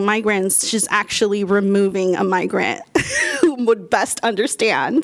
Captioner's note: laughter